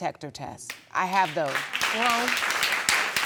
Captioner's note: audience applauding